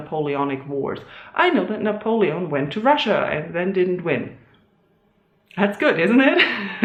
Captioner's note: awkward laugh